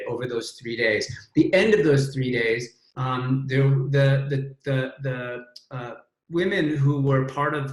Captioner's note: stammers